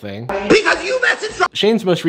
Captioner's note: Shane shouting